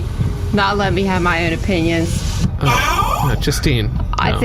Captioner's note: sympathetic whisper